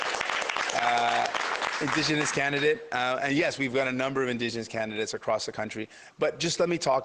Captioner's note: applause